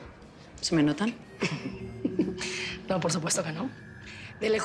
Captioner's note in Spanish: Risas